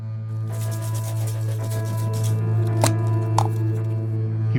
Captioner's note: spray can shaking, popping open can